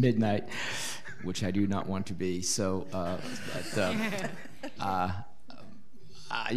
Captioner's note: audience laughing